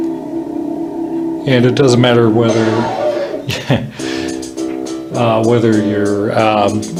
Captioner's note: chuckles